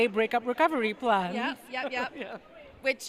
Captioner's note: laugh